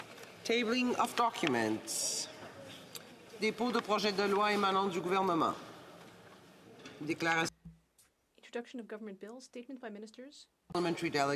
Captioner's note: speaking French